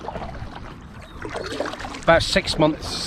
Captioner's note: water splashing